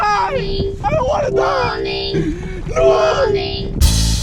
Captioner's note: computerized voice